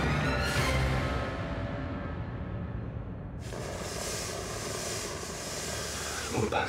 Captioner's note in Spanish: sonido al salir el gas